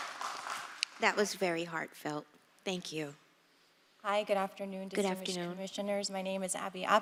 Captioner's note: applause